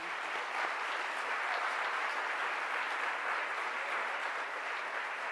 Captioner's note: audience clapping